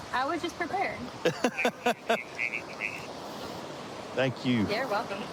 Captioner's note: laughing